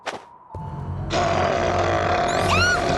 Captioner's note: snarl; squeal